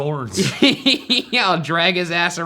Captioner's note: laughs